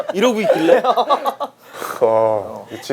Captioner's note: laughing